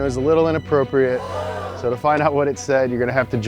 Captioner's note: crowd gasps